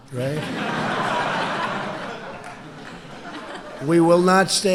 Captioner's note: laughter